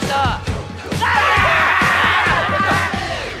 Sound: screams like a man

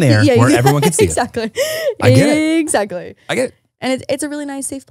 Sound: laughs

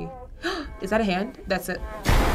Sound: gasping; scary music

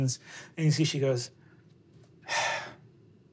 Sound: sighs

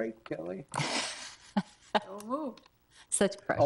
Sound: chuckles

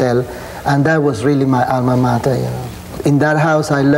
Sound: speaking in foreign language

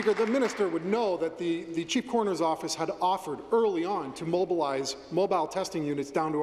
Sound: applause

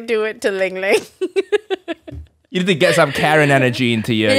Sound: laughing

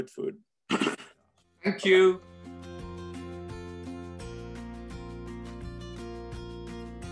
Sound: cough

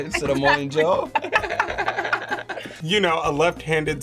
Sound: both laugh

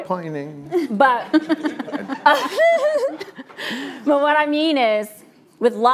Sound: laughs

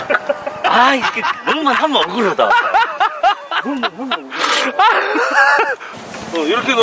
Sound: laughs

